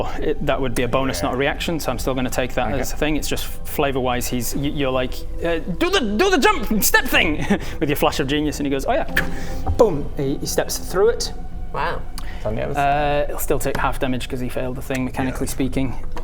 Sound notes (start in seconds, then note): 9.2 whht